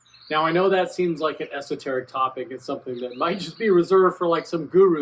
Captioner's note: laughs